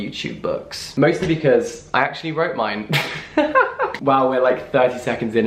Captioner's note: laughs